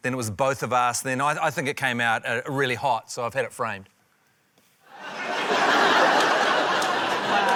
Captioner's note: laughter